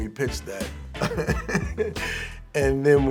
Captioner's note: laughing